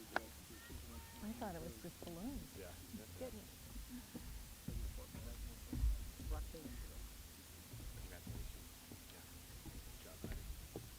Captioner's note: applause